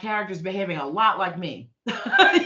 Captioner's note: laughing